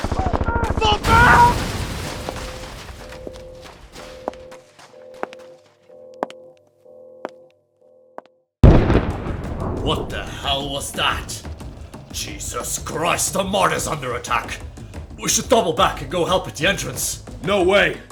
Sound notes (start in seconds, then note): 0.9 aaargh!; 1.5 explosion, footsteps; 8.6 explosion